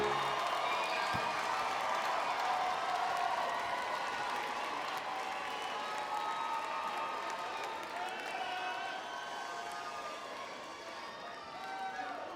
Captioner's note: applause